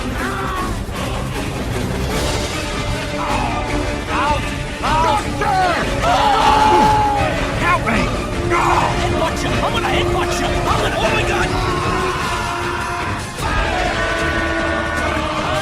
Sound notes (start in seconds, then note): 4.8 Medic screams; 11.3 screaming